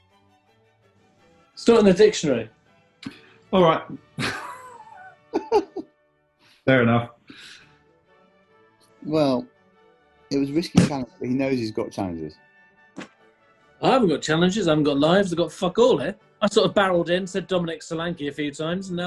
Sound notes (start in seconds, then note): 4.1 chuckles; 10.2 slams dictionary shut